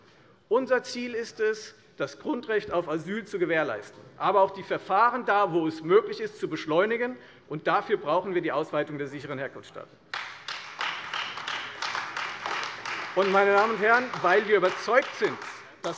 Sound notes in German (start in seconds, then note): 10.1 Beifall Freie Demokraten und AfD